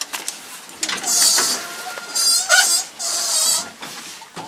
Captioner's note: doors squeak